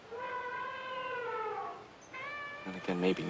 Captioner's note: elephant trumpeting